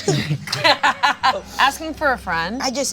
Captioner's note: Delores laughs